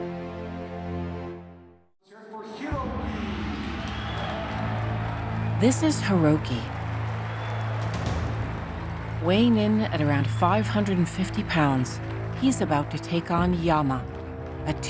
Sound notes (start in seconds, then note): 3.3 announcer speaking Japanese, audience cheers